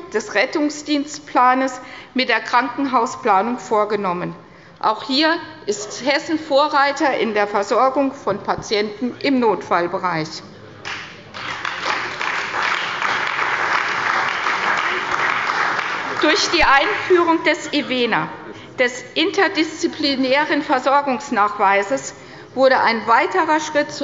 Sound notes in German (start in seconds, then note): 10.8 Beifall bei der CDU und dem BÜNDNIS 90/DIE GRÜNEN